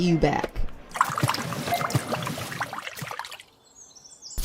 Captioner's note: more pouring sounds